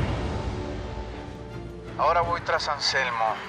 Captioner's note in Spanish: none